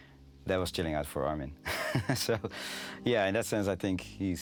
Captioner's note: laughing